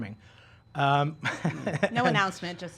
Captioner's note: laughing